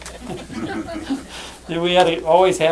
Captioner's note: laughter